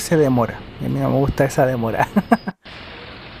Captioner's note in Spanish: risas